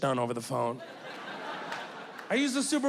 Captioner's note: audience laughing